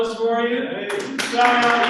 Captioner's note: applause